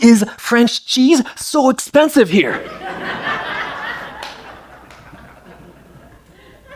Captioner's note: laughter